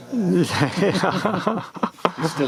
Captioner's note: laughing